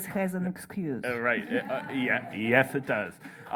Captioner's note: laughter